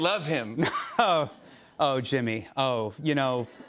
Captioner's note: chuckles